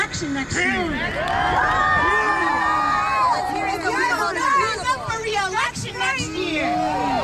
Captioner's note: crowd cheering